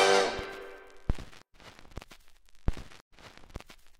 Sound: record scratches

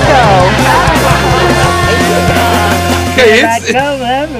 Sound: laughter

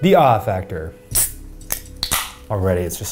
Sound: soda can pops

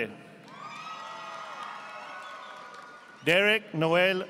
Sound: audience applauding

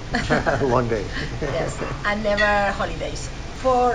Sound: laughs

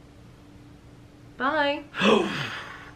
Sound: gasps

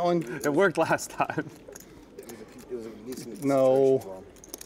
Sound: laughing

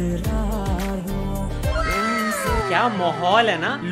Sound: wooooowww

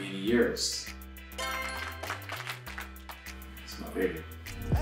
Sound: applause sound effect plays

